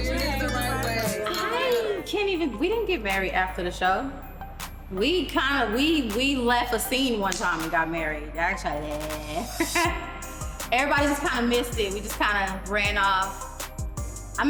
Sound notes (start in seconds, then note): 9.3 laughs